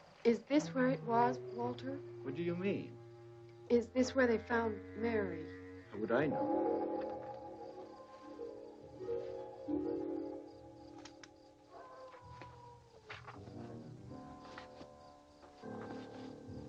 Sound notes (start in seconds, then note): 11.9 wolf howling